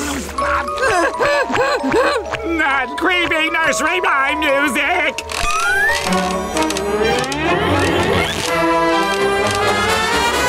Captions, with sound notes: [creepy music playing] Not creepy nursery rhyme music! [creaking]